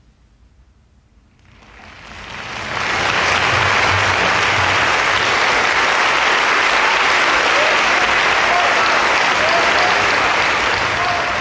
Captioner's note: applause